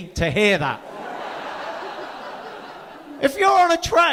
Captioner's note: audience laughing